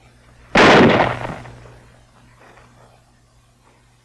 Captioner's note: gun fires